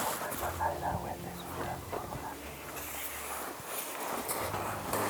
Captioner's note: whispering